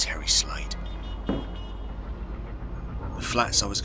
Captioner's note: glass thumping